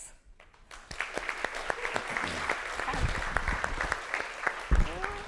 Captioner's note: audience applauds